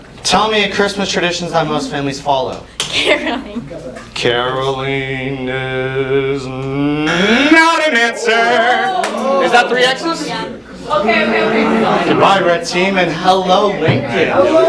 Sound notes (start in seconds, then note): 2.9 laughing; 4.4 sing-song; 6.9 wrong buzzer; 9.8 lots of oohs